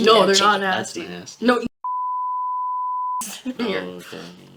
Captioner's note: beeping